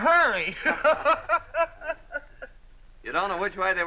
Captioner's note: laughs